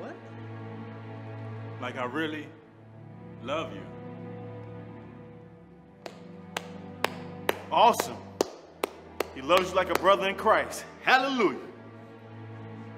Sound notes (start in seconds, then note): 4.1 gentle music; 6.0 Nick clapping